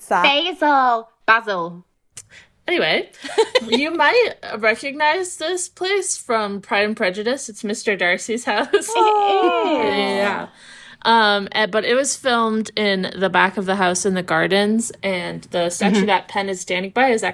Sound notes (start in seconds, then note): 0.2 mocking; 3.2 laughing; 8.8 awwing